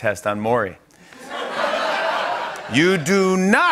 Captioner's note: laughter